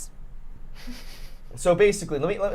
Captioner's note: chuckles